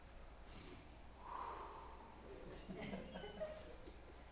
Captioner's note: exhales